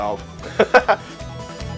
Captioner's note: laughs